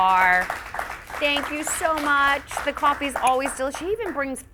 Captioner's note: audience applauds